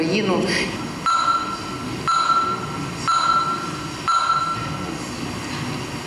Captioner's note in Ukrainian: звук системи голосування